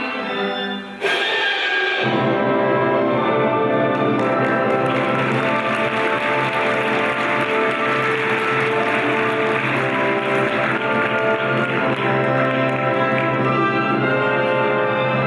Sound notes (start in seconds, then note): 4.2 audience applauds; 11.7 bright classical music